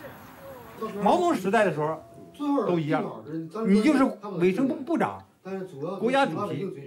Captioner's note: speaks in Chinese language